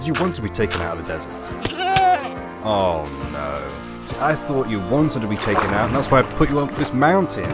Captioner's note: goat sound